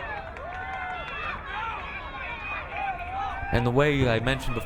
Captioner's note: crowd cheering